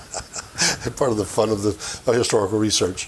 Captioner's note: chuckling